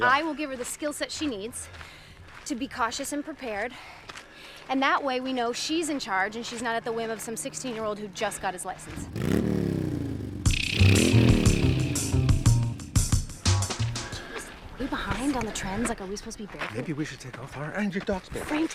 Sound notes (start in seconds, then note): 8.8 engine revving; 9.1 upbeat music